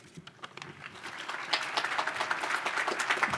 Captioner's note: applause